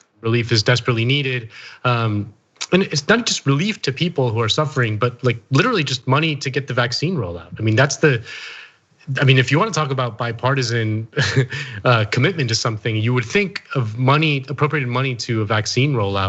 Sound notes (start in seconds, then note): 11.2 laugh